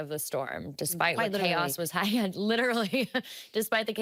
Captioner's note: laughing